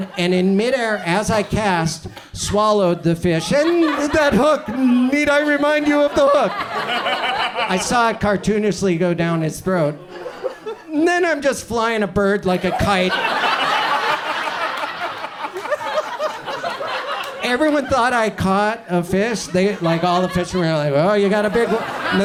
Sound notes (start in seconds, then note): 6.9 audience chuckles; 12.5 audience laughs